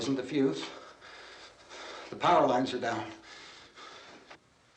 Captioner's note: panting